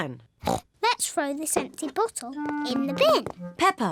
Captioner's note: snorts